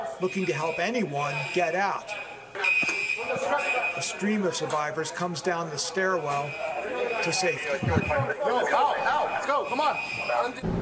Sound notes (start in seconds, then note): 2.5 alarms screeching